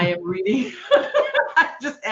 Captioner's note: laughing